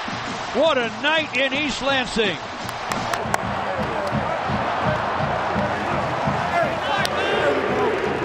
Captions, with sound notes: What a night in East Lansing. (crowd cheering)